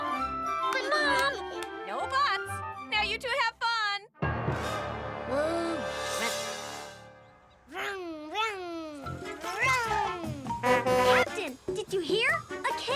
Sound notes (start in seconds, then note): 4.2 dramatic music; 10.6 horn honking